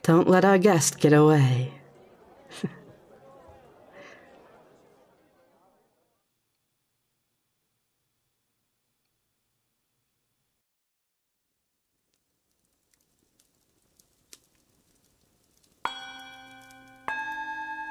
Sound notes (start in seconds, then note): 1.8 party sounds fade out; 1.9 crackle of a fireplace fades in